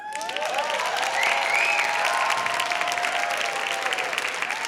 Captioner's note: applause